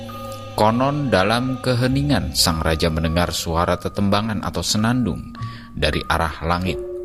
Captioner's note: humming